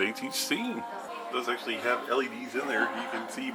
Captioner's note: male Voice